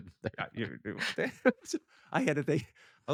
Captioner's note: laughs